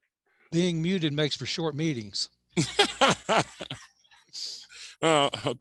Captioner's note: laughs